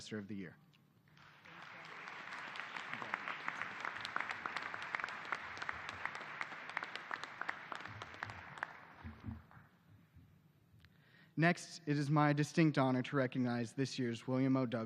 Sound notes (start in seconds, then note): 4.0 applause